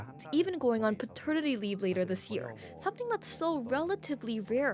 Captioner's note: speaking Alternate Language